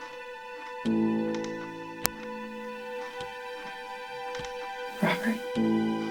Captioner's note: chair creaks rhythmically